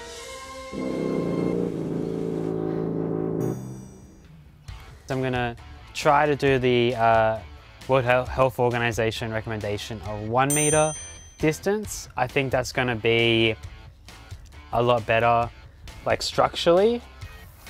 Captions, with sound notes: (somber music) I'm going to try to do the World Health Organization recommendation of one meter distance. (bell dings) I think that's going to be a lot better, like structurally.